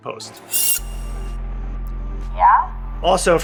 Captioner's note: screech sound